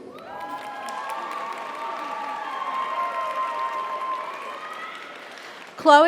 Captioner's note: audience cheers; audience applauds